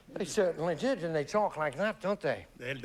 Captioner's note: english accent